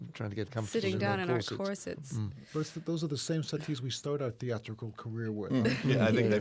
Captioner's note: whispering